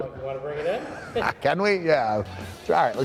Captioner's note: laugh